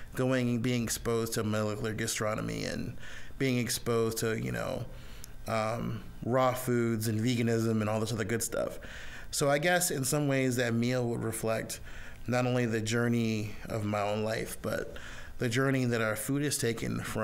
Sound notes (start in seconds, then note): none